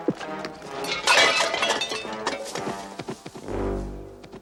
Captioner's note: pots clanging